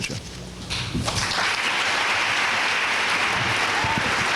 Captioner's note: applause